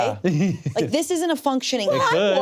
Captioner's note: laughs